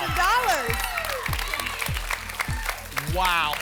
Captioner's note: applause and cheering